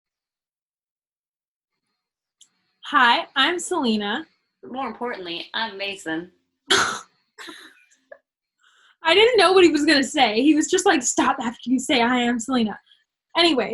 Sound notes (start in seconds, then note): 7.4 laughter